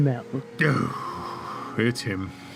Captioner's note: sighs